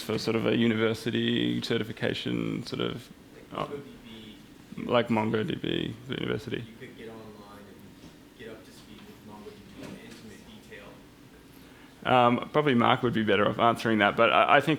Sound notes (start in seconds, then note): 3.3 voiceover; 6.9 voiceover